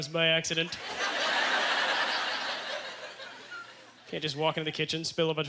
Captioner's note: audience laughter